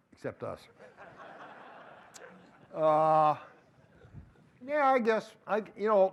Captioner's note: laughter